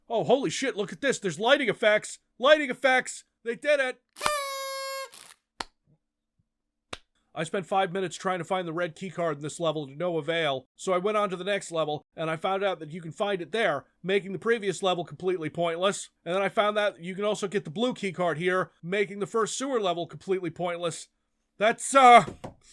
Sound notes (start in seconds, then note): 4.1 party horn...noisemaker...thing; 5.4 clap................clap